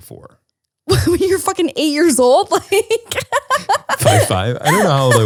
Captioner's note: laughs